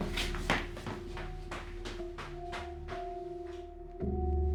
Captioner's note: footsteps running